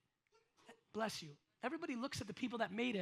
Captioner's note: audience member sneezes